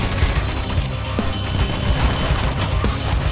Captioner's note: staccato gunfire